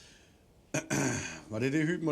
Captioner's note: clears throat